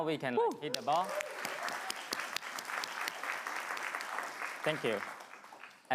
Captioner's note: crowd clamoring and clapping